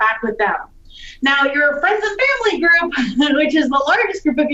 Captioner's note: laughs